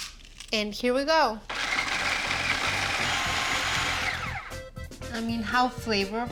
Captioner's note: whirring